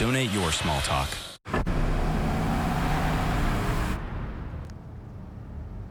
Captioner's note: SFX: Engine sound